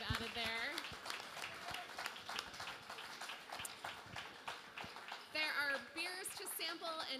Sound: applause

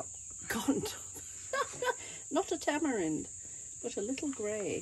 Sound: laughter

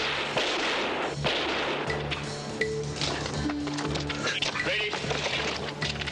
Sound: gunfire

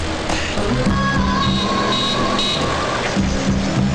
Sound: horn Honking

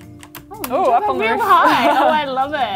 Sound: chuckles

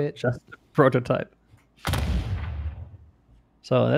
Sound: booming sound continues

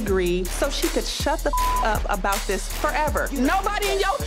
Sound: beep

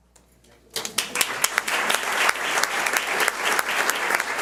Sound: audience applauds

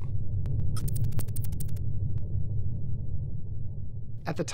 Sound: electronic typing

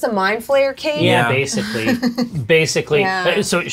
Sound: sounds of assent

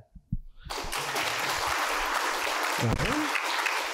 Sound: applause

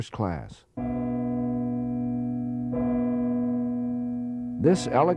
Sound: bells of the Campanile tolling

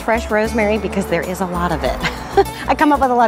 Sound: laughs

